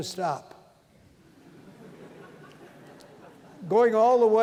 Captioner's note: laughter